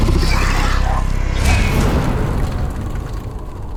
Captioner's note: growl; scream; impact